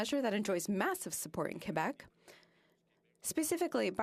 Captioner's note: speaking French